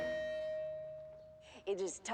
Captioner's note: loudspeaker febaedck